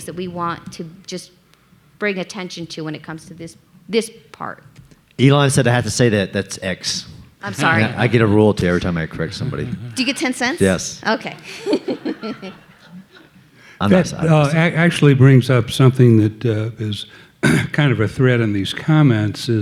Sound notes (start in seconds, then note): 11.1 audience laughing; 11.9 laughing